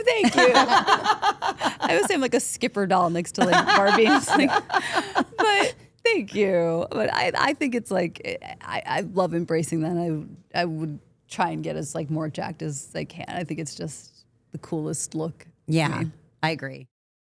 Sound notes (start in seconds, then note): 0.2 all laughing; 3.3 Stephanie and Shayna laughing